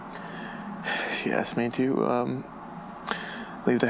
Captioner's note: heavy sigh